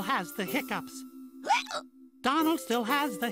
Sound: hiccups

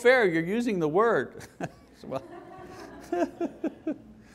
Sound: laughing

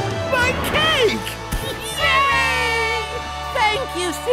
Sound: cheering

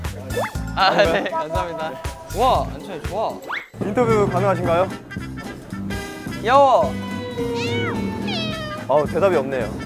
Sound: meow

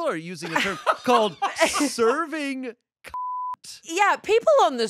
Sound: beep

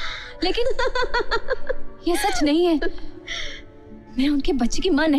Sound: laughs

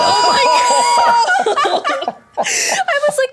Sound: guessers laughing

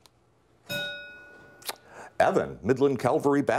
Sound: bell rings

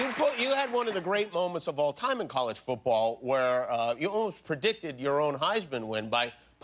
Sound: applause

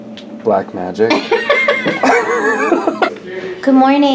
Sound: laughs

